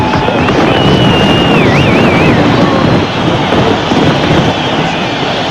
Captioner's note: Estonian